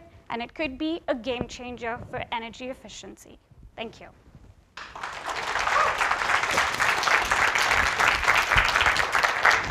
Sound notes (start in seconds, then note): 4.8 audience applause